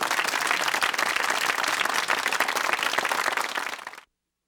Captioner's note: audience clapping